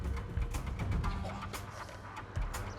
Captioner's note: chuckles